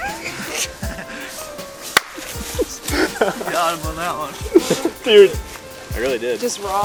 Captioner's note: laughing